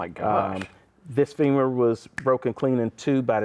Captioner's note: snaps fingers